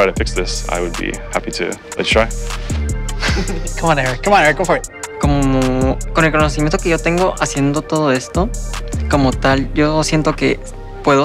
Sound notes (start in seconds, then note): 5.7 speaking Spanish